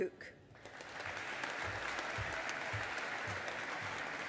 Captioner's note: audience applauding